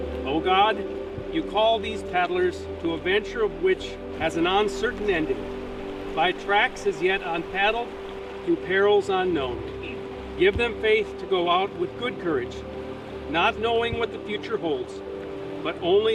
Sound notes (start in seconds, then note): none